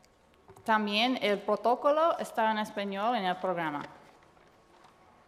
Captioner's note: speaking foreign language